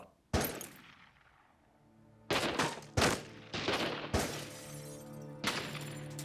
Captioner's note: gunshots